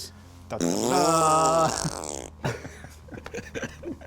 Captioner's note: blows raspberry; both men laugh